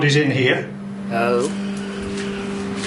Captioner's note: strange voice